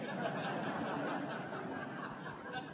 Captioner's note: laughter